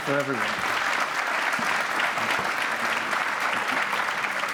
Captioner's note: applause